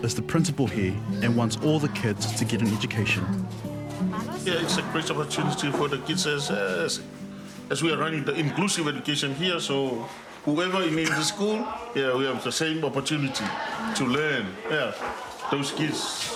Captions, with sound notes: One, two, three. (MAN SPEAKS SAMOAN, CHILDREN CHATTER) Lea'ana Fesilafa'i Lauvi is the principal here and wants all the kids to get an education.